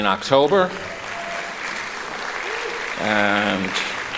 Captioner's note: applauding